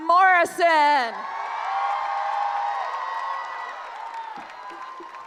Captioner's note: cheering